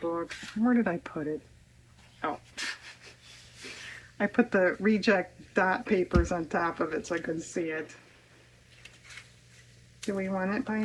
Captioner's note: laughs